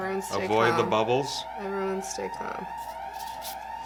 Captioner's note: sirens blaring